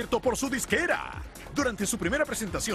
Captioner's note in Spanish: hablan en ingles